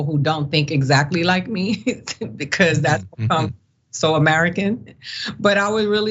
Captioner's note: laugh